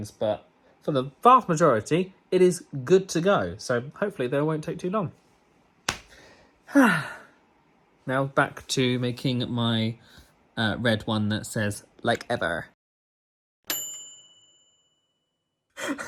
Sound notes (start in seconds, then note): 5.8 hand slapping; 6.7 sighing; 13.7 bell dinging